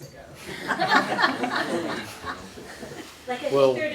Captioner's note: laughter